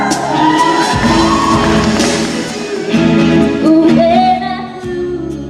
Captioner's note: cheering